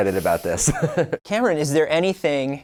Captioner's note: laughs